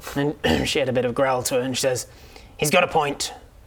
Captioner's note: grr